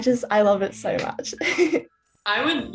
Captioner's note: giggles